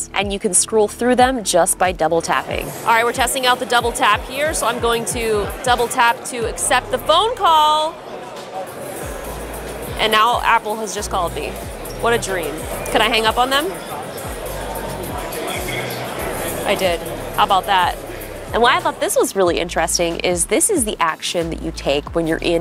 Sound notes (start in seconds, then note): 2.7 people chatting